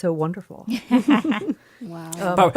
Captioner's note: laughter